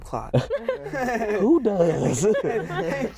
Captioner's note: laughter